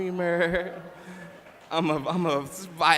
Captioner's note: cheering